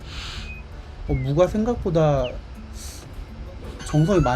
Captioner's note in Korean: 콧방귀